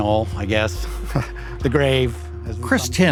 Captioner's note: chuckling